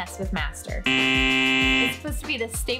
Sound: buzzer

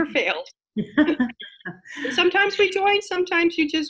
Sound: laughing

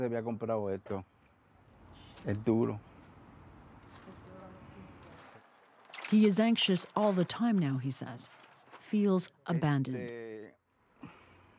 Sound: speaking foreign language

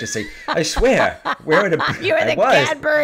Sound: laughing

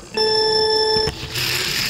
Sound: timer drones; wheels whirring

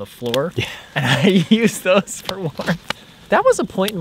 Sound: laughing

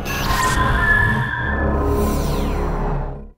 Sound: sound Effects

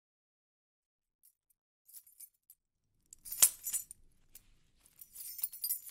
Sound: sound of keys

